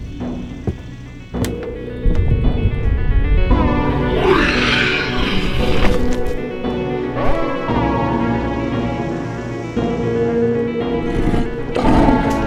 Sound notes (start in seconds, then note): 3.8 wyllie roars